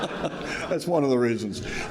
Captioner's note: audience laughing